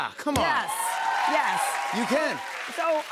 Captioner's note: cheers and applause